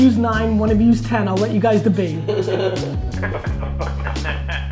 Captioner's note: laughs